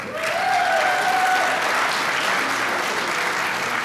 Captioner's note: applause